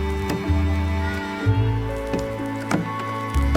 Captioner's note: tool banging